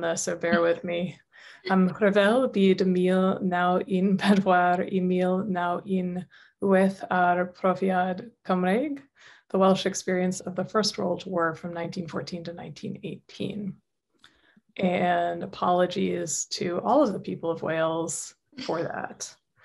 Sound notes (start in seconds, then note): 2.1 speaking Welsh